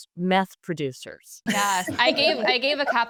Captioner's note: group laughs